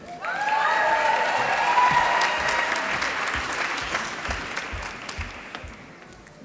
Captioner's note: applause